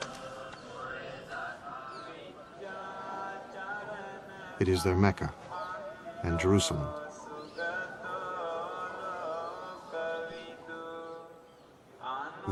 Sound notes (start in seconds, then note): 0.2 chanting in foreign language; 8.2 chanting continues